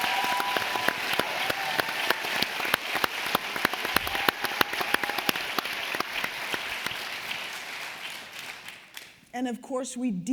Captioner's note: applause